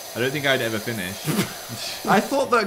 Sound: laughs

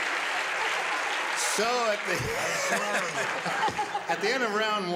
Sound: chuckling

